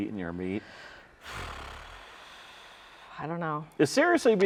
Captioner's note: sighs